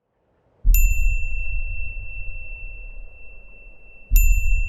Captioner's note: bell chiming